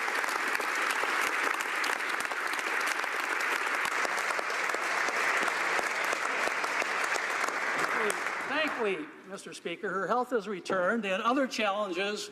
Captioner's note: applause